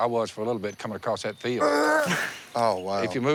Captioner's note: throws up